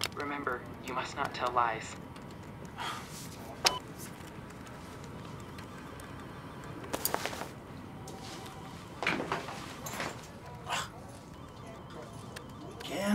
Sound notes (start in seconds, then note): 6.9 sound of belt breaking